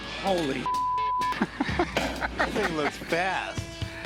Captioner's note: Rick laughs